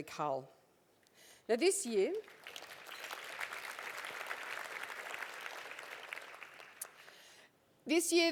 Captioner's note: applause